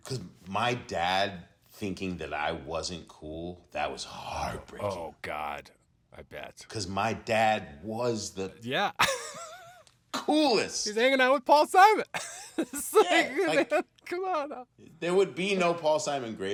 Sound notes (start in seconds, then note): 12.1 laughs